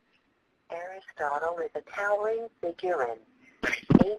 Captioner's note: voiceover